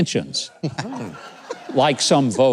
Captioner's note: audience laughs